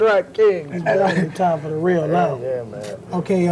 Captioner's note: laugh